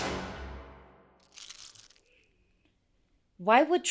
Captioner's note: ice crunching